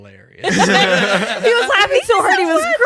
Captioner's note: laughing